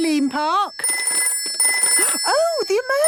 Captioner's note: phone ringing